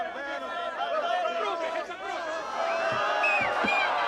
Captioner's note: taunting shouts